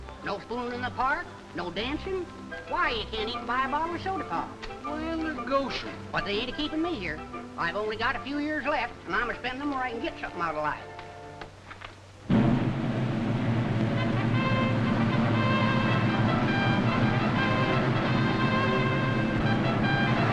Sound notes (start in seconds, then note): 11.9 traffic humming; 12.3 dramatic trumpet music